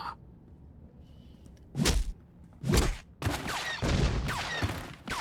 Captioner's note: speaking foreign language